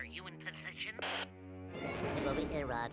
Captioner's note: none